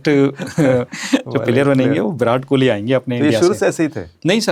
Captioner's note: laughs